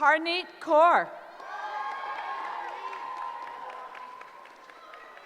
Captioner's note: cheering